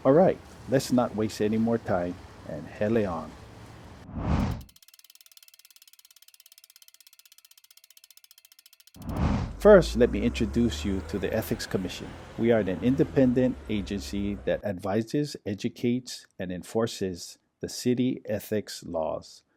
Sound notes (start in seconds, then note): 3.5 whoosh; 4.4 compass spinning; 9.8 trolley passes